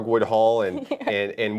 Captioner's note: giggles